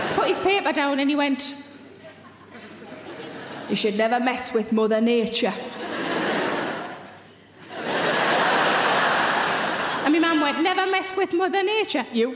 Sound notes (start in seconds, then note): 1.9 audience laughing; 5.9 audience laughing